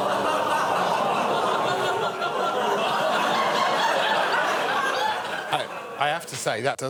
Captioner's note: audience exclaiming